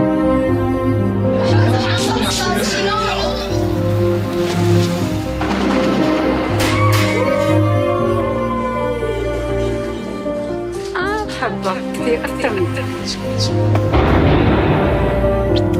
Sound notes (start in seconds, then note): 5.2 gunshots; 6.5 cheering